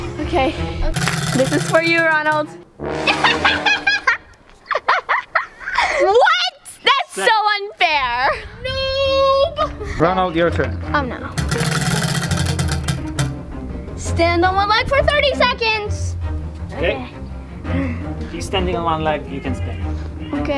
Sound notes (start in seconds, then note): 3.1 laughs; 11.3 wheel clanks around metal axle